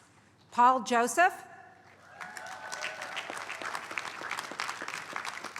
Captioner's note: applause